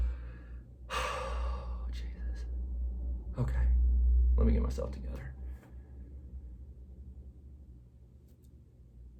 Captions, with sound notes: (sigh) Oh, Jesus, okay, let me get myself together.